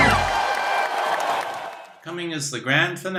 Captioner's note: applause and cheers